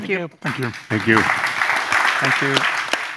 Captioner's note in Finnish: Applause